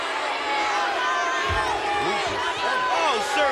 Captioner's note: crowd yelling